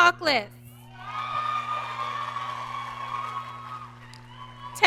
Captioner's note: audience cheering